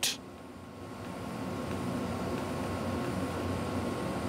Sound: quiet whirring and roaring

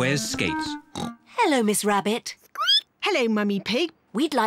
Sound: snorts; squeaks

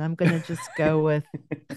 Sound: laughter

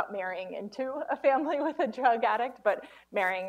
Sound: chuckles

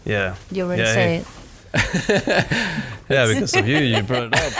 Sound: laughs

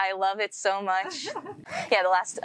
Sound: host laughing

